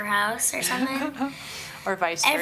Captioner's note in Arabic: يضحك